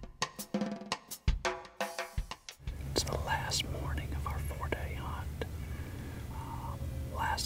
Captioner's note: whispering